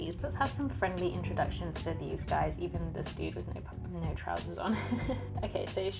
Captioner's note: laughs